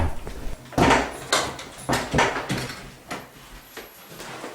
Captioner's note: things falling